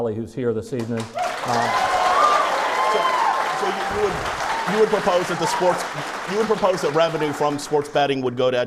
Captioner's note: clapping